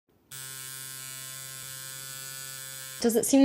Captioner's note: tattoo needle buzzing